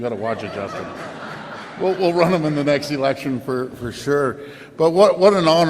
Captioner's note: laughter